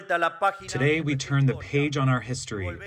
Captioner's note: through translator